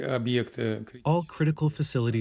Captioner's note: through translator